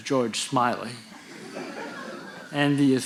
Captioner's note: audience laughing